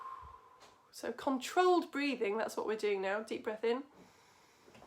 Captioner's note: deep breath in